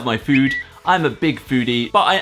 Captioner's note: whistle